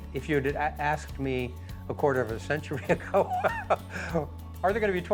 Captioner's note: laughs